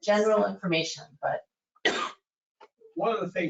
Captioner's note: coughs